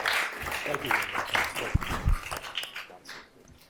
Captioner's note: applause